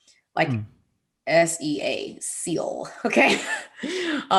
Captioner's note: laughing